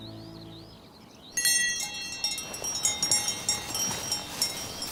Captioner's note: cowbell rings